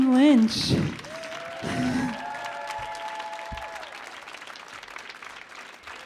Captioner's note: audience cheers and applauds